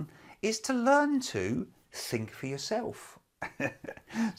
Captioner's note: laughs